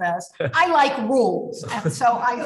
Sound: laughs; laughs

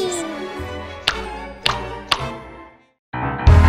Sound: pop SFX

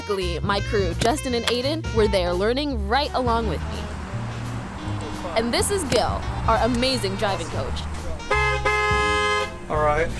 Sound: honk

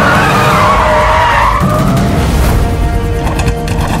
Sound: brakes squeak

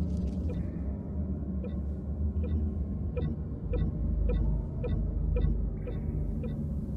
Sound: blipping

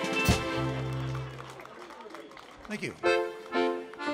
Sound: audience applauding

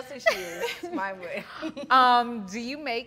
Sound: laughs

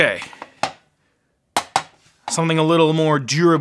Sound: screwdriver clanging

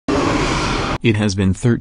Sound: Krill roar

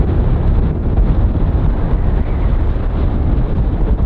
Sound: strong winds blowing

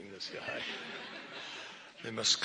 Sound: laughter

